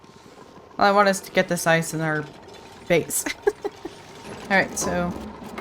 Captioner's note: laughs